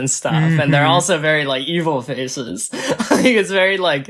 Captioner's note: laughs